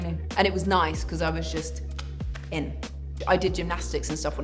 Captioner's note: clicks